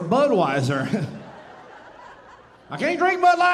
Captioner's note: audience laughing